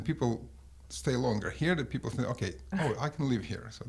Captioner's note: laughs